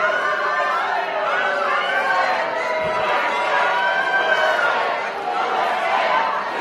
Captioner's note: shouting off-mike; booing